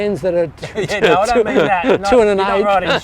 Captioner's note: laughs